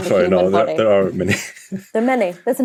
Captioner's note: chuckles